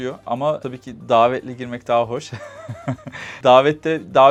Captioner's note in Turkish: kahkaha